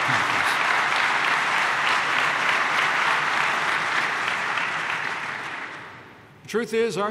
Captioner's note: applause